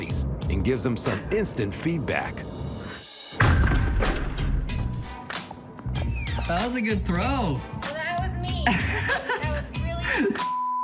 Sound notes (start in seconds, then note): 3.4 thudding; 8.6 man laughs